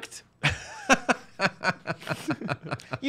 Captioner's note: laughs